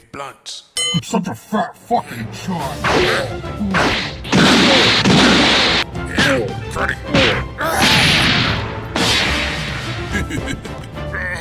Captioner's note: ding